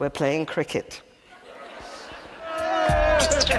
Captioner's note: audience laughing; cricketers cheering